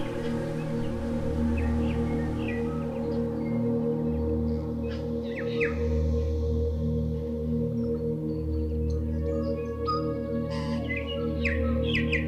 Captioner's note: fire crackling